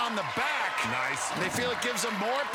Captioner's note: cheers and applause